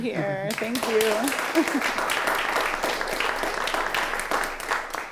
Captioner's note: audience cheering